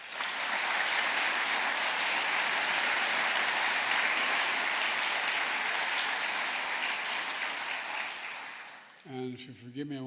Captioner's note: applause